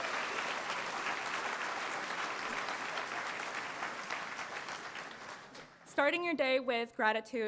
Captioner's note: applause